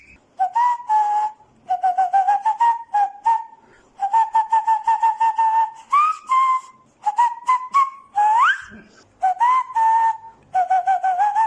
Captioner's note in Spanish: Más silbidos